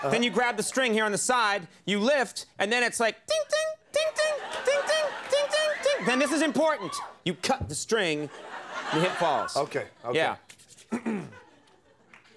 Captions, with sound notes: Then you grab the string here on the side, you lift, and then it's like, ting-ting, ting-ting, ting-ting, ting-ting, ting-- (audience laughs) Then this is important, you cut the string, (audience laughs) your hip falls. Okay, okay. Yeah.